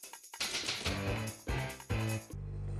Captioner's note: typewriter clacking